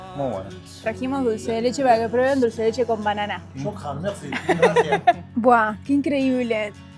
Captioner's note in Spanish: risas